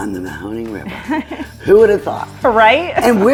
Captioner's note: woman chuckles